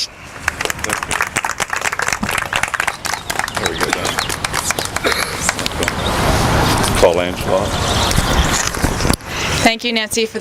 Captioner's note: applause